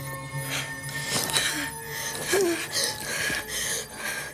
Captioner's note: panting